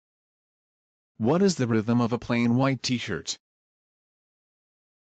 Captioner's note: voiceover